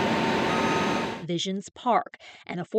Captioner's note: sound of machinery